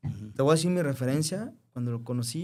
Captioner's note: clears throat